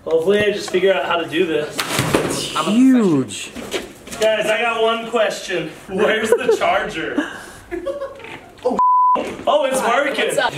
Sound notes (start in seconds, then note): 7.8 laughing